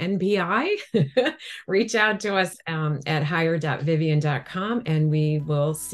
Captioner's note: chuckles